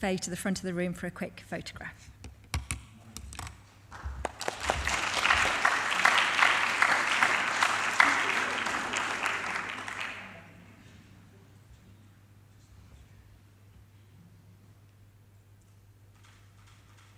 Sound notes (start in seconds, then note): 3.9 crowd applause loudly